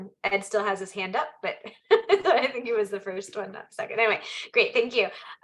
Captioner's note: laughs